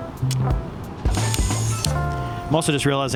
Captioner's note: light jazz music; camera shutter clicking